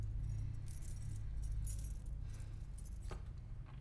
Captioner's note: keys jangling